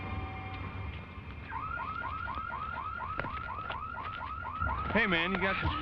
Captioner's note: car alarm